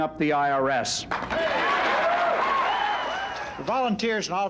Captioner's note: cheering